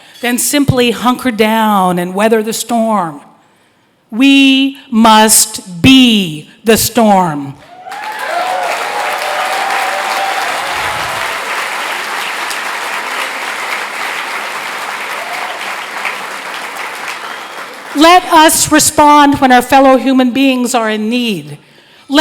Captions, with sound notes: than simply hunker down and weather the storm. We must be the storm. (applause) Let us respond when our fellow human beings are in need.